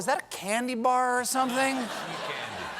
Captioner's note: laughter